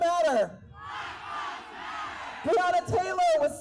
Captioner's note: crowd: Black lives matter